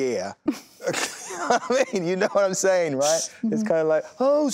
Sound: laughs

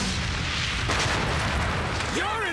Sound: <i>loud crash</i>

